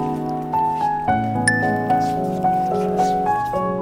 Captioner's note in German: Helles Klingeln